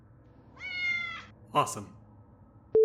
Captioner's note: meow